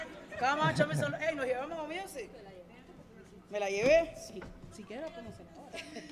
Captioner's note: speaking in Spanish